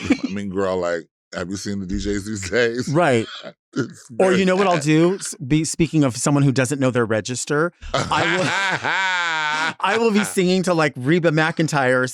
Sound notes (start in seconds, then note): 0.0 chuckles; 4.2 chuckles; 7.9 Latrice laughing